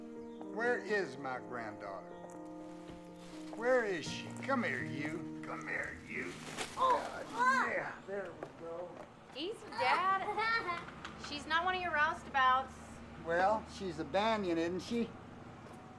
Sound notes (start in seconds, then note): 6.8 girl grunts